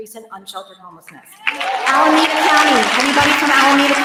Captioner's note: applause